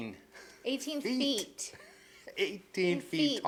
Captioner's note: chuckles